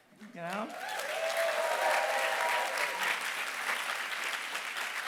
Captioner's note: applause